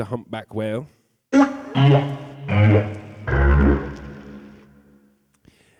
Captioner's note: whale sound